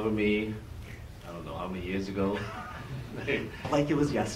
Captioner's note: laughs